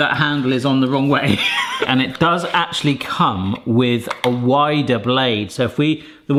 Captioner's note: laughs